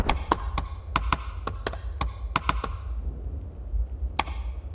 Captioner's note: keyboard clicking sound